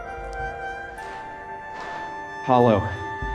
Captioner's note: footsteps thud